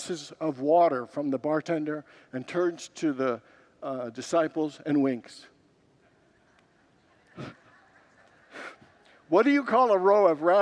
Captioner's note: congregants laugh